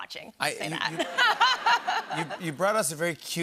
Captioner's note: laughter